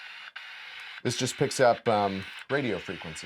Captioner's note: radio static crackling